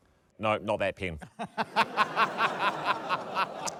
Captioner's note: laughter